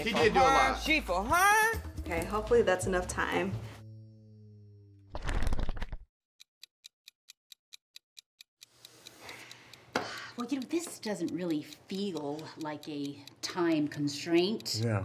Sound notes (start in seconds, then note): 5.1 pages flipping; 6.5 clock ticking